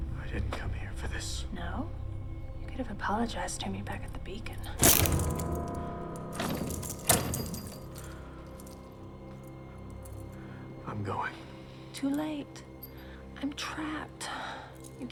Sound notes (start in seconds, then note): 0.0 suspenseful music; 5.0 chains rattling; 5.0 suspenseful music